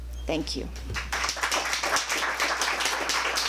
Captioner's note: applause